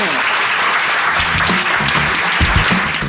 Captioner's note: audience clapping; upbeat music